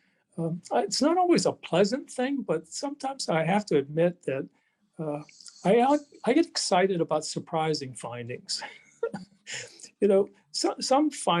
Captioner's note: laughs